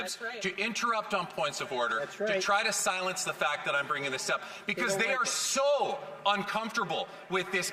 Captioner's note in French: voix de l'interprète